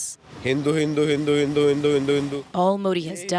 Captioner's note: foreign language